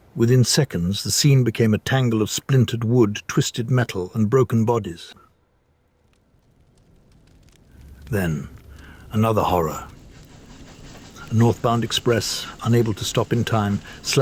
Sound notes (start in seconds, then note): 8.5 distant train chuffing